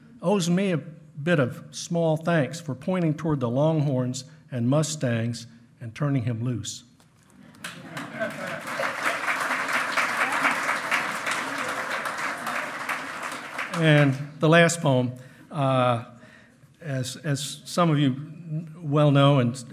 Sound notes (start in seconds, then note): 7.4 loud clapping; 7.6 hearty laughing